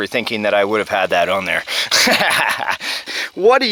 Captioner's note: laughs